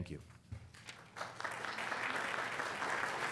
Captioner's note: applause